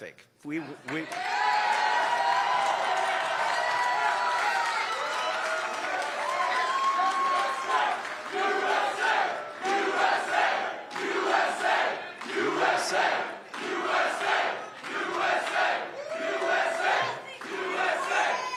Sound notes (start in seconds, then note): 6.1 cheers and applause